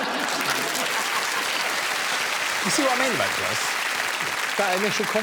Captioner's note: laughing and applause